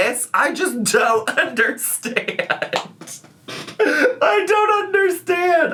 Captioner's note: laughs